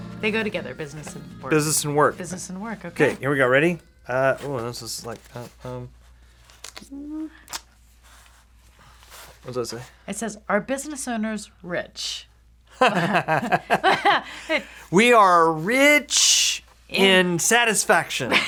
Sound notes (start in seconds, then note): 12.7 both laughing